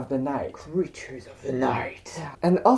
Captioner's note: spooky voice